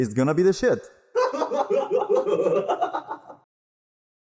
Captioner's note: deranged laugher